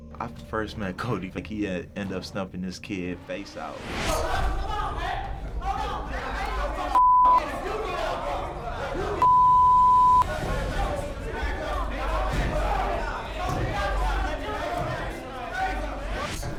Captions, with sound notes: I first met Cody, like he ended up stuffing his kid face out. Come on, man! Hold on, man! [men yelling]